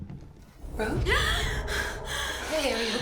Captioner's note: Rose gasping